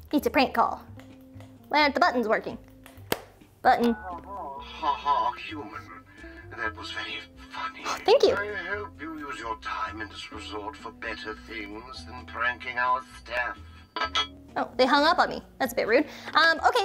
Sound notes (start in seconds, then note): 4.8 male Voice; 13.9 metal clanging